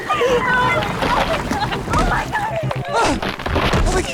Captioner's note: water splashing